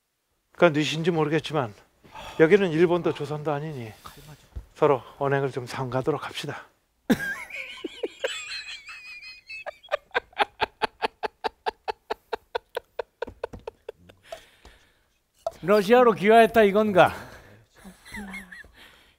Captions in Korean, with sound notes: 거 뉘신지 모르겠지만 여기는 일본도 조선도 아니니 서로 언행을 좀 삼가하도록 합시다 (웃음소리) 러시아로 귀화했다 이건가